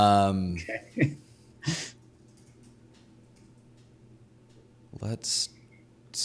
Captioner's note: laughing